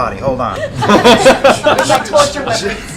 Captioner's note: laughter